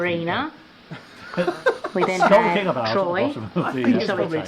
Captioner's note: laughing